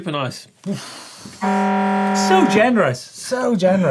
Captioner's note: buzzer sounding